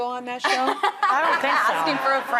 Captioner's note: laughing